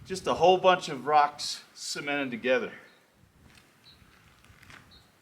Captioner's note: bird song